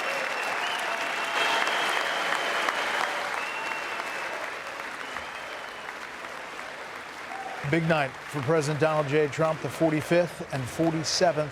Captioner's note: applause; cheers